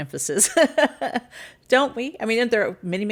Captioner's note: laughs